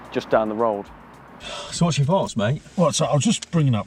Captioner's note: sighs